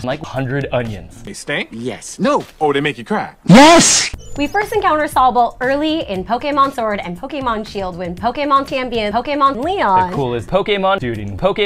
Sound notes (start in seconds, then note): 4.5 back in own voice